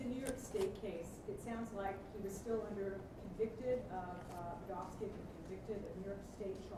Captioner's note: stutters